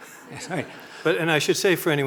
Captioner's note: audience laughing